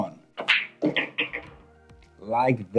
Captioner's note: ball smacks and rattles